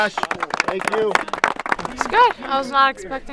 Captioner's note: applause